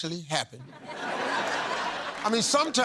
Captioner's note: laughter